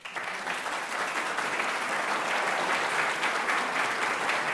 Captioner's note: audience applauding